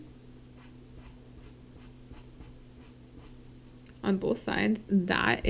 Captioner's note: pen scratching